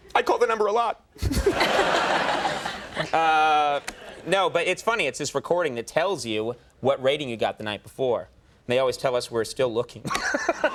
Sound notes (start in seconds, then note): 1.2 laughing; 1.2 audience laughing; 10.0 Conan laughing; 10.1 audience laughing